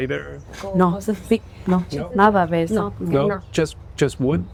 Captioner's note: and translator speaking spanish